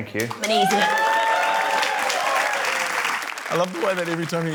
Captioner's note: cheering, applause